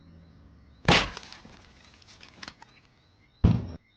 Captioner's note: gunshot firing